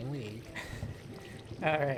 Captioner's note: chuckles